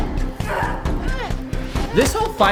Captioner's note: both grunting